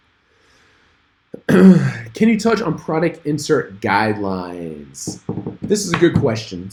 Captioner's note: clears throat